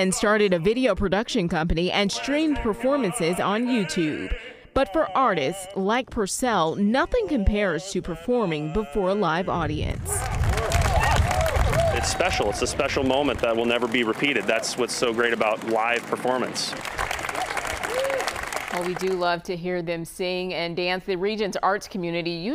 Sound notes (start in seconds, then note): 14.2 applause